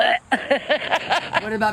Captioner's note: laughs